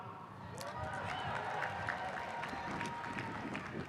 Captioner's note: cheering